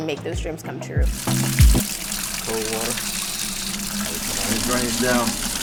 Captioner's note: water running